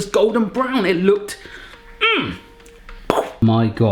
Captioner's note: grunting